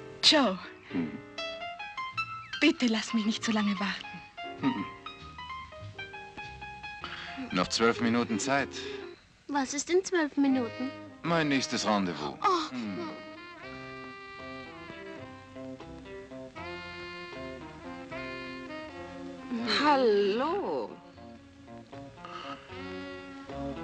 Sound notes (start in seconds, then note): 13.8 both groaning; 16.2 jazz music